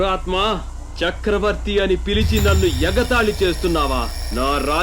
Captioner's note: alarm ringing